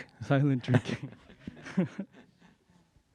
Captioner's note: laughs